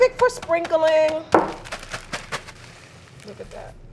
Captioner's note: bag shaking